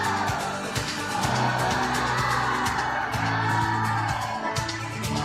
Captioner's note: audience applauding